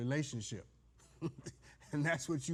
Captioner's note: judge laughs